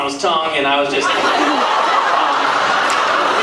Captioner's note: laughs